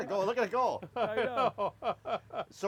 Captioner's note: laughs